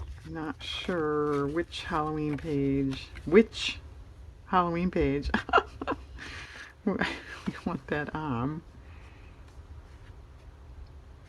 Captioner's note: laughs